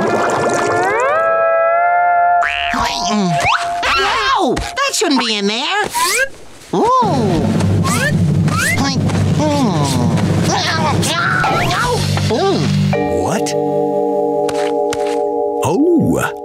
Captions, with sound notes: Whoa, that shouldn't be in there! Ooo! Hmm. [grunting] What? Oh!